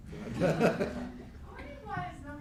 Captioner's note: laughing